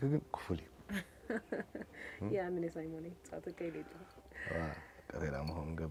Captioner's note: laughs